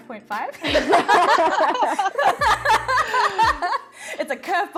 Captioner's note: everyone laughs